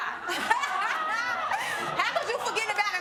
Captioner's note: all laughing